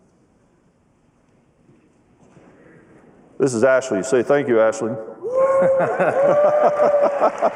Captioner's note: cheering and applause